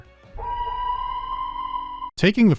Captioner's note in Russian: сирена из "Прометея"